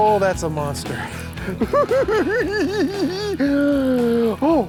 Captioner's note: chuckles